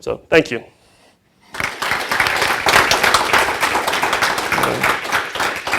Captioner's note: applause